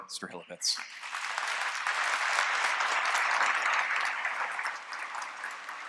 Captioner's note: applause